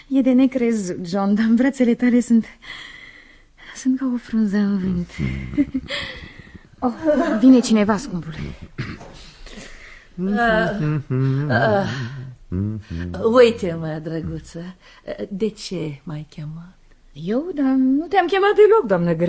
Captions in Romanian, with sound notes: E de necrezut, John, dar în brațele tale sunt sunt ca o frunză în vânt. Oh, vine cineva, scumpule. [voce dreasă] Uite, mă, drăguță, de ce m ai chemat? Eu, dar nu te am chemat deloc, doamnă